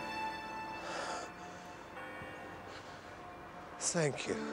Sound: church bell tolling; exhales deeply

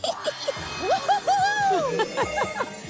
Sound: Clef giggles; Ms. Tab chuckles; Lenny whooping

